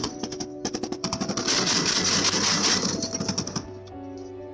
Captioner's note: gunfire